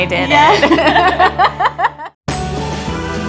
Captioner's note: laughter; gentle music playing